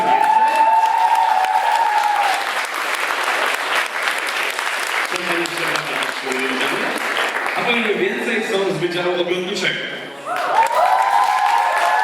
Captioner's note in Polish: Aplauz